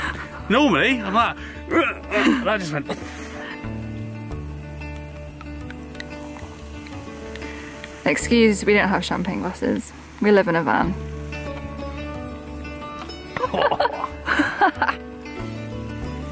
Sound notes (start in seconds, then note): 13.3 laughing